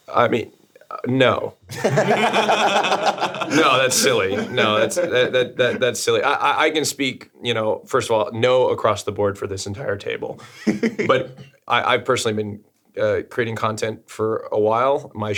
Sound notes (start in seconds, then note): 1.7 streamers laughing